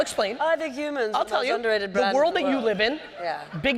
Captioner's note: mockingly